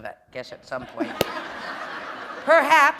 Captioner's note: laughter